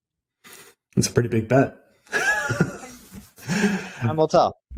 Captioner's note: laughs